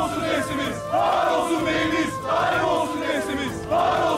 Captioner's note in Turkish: Hep bir ağızdan